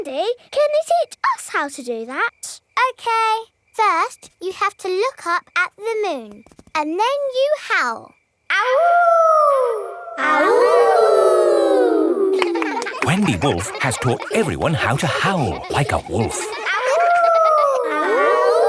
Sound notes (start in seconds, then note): 8.7 howling; 10.6 kids howling; 16.5 howling